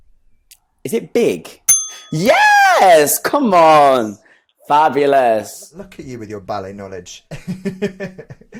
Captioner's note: bell dings